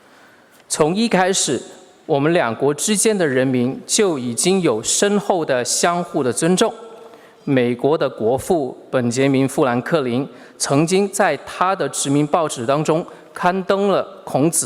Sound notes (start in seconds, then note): 0.8 speaking Mandarin Chinese